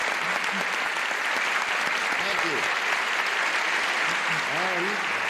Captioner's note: applause continues